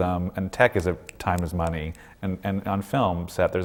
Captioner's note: snaps his fingers